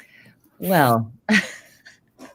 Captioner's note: chuckles